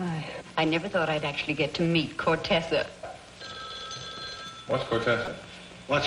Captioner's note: phone rings